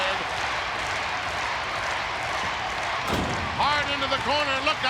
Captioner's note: applause